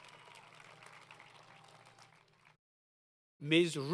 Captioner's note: applause